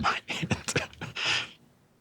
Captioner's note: laughs